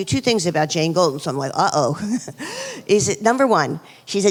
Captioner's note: laughs